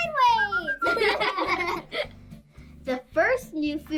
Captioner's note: laughs